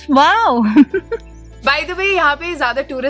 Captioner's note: chuckles